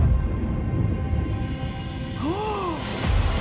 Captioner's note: guest gasps